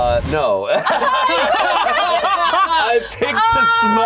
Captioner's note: all laughing